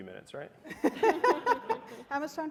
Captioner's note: panel chuckles